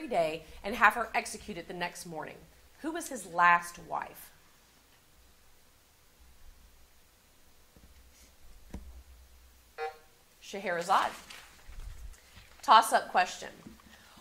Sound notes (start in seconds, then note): 9.8 buzzer sounding